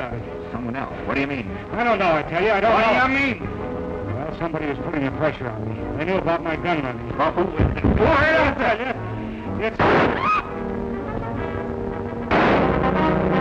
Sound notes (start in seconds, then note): 9.8 gunshot; 10.0 screams